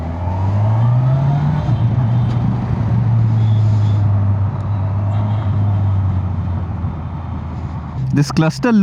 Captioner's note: engine thrum